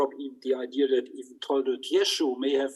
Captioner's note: speaks in foreign language